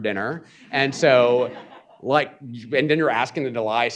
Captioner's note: audience chuckling